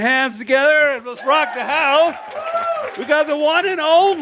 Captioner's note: audience claps and goes “Woo!”